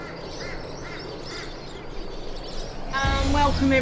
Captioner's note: birds chirping